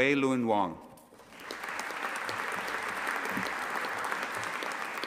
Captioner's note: audience applauding